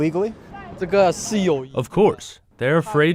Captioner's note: speaking foreign language